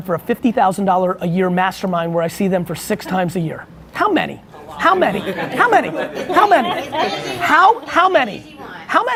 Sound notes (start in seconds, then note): 4.5 laughing